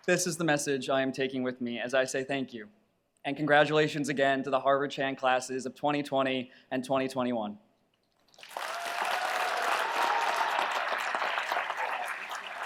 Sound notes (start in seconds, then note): 8.3 audience applauds